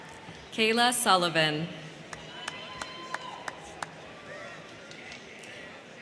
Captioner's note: crowd cheering; crowd cheering